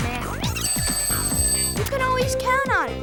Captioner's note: ring